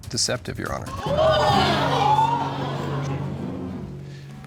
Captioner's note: audience gasps